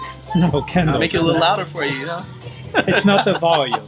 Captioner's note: laughing